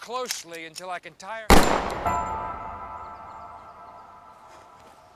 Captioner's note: gun clicks; gun fires